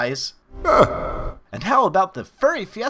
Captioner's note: laughs